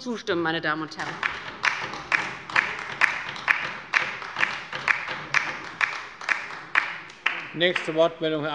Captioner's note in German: Beifall bei der LINKEN